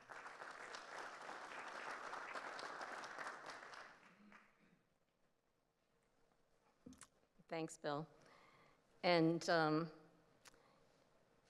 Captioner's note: applause